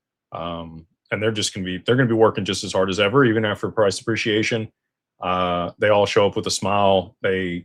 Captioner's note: none